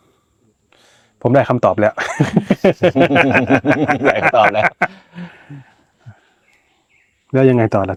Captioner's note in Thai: เสียงหัวเราะ